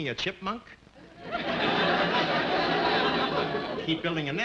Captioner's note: audience laughing